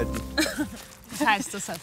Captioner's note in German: lacht